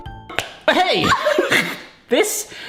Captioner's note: smack